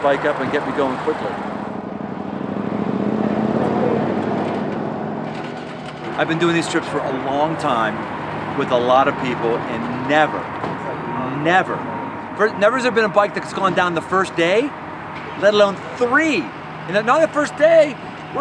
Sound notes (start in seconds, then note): 3.1 motorcycle engine revving